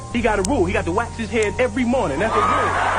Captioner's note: crowd laughter